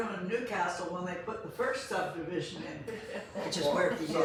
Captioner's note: laughs